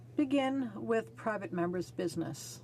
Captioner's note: speaking in french